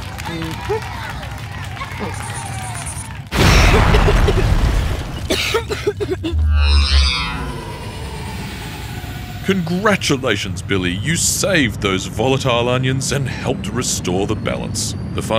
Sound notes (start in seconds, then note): 3.3 exploding; 5.4 coughing